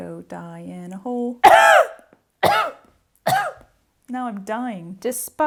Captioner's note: three dramatic coughs